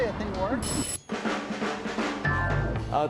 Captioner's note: phone ringing